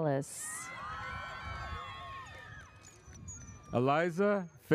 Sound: audience cheers

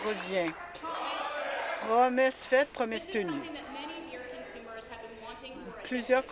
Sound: applause

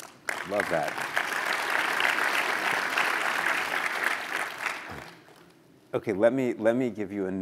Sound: applause

